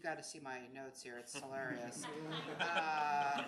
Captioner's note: audience laughs